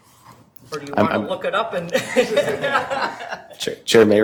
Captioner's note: laughing